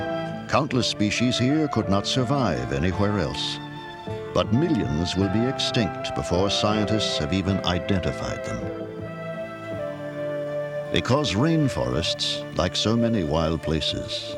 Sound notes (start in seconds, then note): none